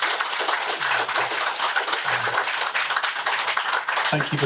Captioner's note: applause